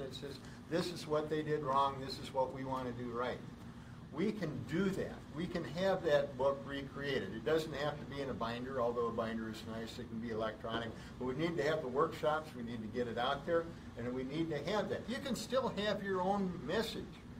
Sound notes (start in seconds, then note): none